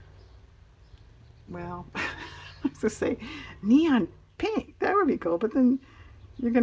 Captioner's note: laughs